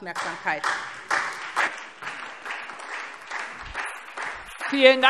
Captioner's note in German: Beifall SPD